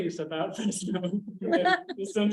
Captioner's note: chuckling